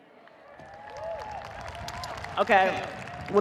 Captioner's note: audience cheers, applauds